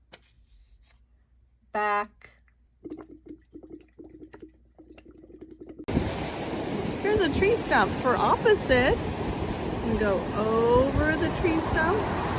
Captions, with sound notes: back. (water bubbles) (waves crash) Here's a tree stump for opposites. We go over the tree stump,